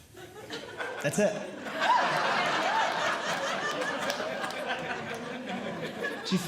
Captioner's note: audience Laughing